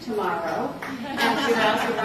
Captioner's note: laughter